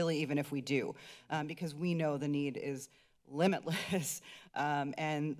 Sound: giggles

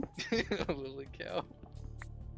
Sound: laughs

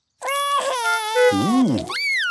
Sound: cries

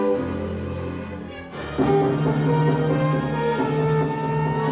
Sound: sirens Approaching

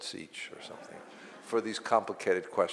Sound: audience laughs

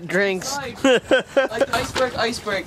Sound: laughter

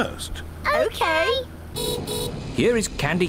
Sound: horn beeps

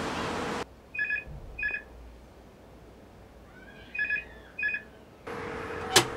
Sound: phone ringing

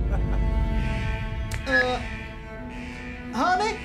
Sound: alarm device buzzing

